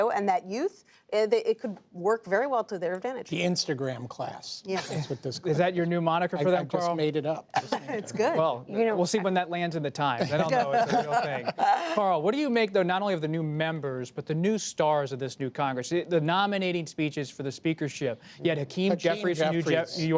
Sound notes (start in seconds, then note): 10.2 laughter; 13.7 laughter